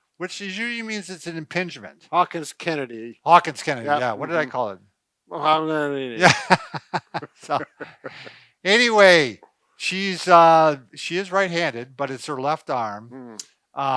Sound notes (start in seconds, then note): 6.2 laughs